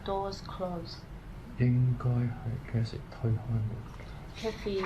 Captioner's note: speaking in Cantonese